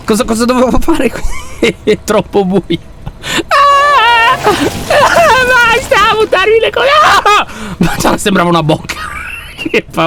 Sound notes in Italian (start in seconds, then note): 3.6 urletto agitato; 7.4 sussulta